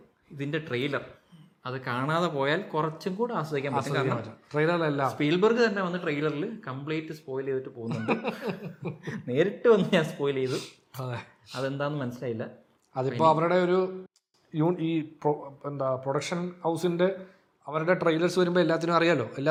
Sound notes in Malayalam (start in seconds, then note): 7.9 പൊട്ടിച്ചിരി; 10.5 ചീറ്റുന്നു